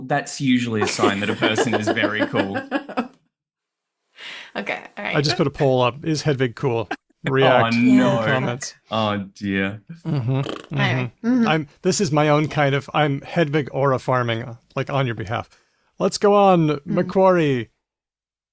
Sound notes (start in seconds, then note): 5.1 laughs